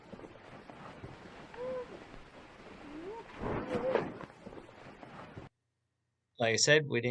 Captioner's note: white noise crackling; voice whooping